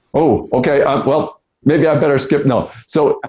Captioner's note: Sadhguru laughs